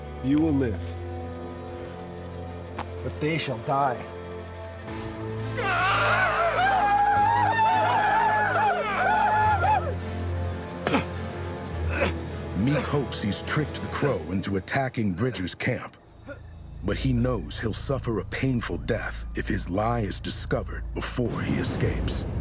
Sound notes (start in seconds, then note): 5.6 groans, crow yell